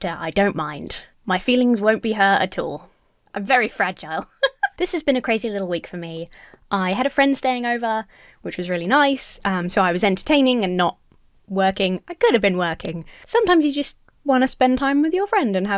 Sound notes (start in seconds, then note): 4.1 Emma laughs